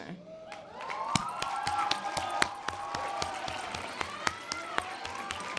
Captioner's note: audience applause